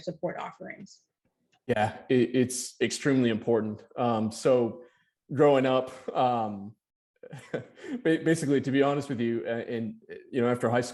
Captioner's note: chuckling